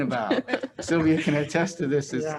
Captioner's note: laughs